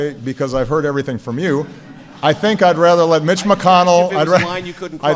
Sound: laughter

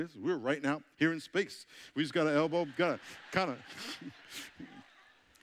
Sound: audience chuckling

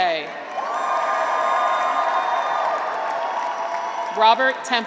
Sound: graduates cheer

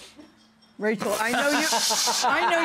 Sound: laughs

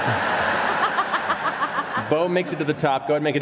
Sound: laughs; laughter

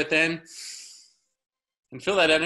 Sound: inhaling deeply

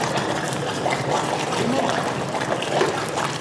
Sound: loud bubbling

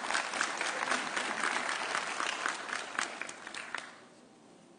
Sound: audience cheering

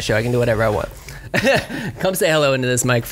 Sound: laughs

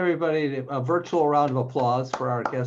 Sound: clapping

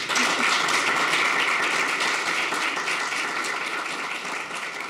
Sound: audience clapping

